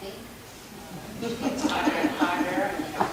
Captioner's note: audience laughing